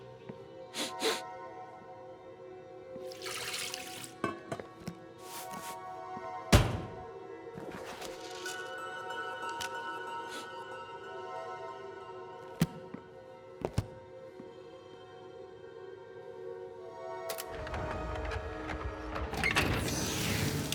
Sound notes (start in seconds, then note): 0.7 chef sniffs; 0.7 eerie music; 7.8 eerie music continues; 9.0 Chef sniffs; 16.2 eerie music continues